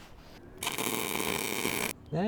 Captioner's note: drilling